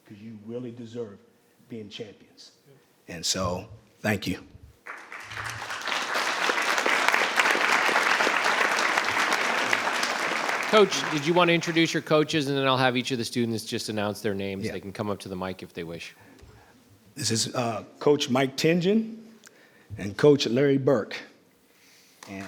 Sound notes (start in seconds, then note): 4.8 audience applauding